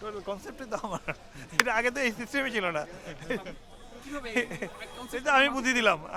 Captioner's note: ha ha